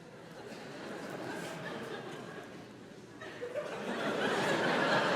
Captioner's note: audience laughs lightly; audience laughs